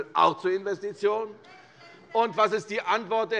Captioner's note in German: Zurufe von der SPD